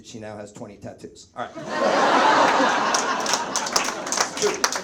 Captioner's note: audience laughs